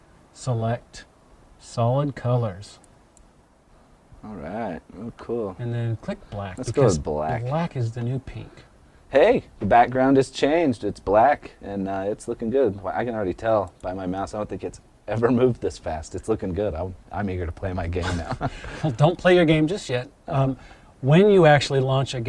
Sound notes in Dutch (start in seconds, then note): 17.9 gniffelt